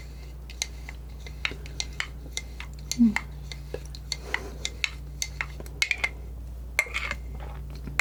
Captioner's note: scratching